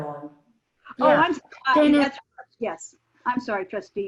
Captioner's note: multiple people chattering